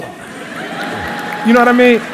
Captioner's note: laughter